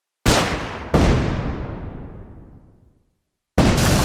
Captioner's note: loud explosion